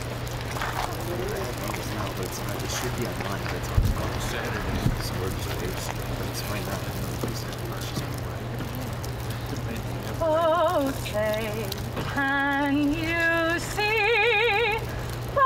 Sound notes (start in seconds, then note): 0.4 muffled crowd conversation